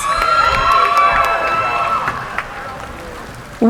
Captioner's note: cheering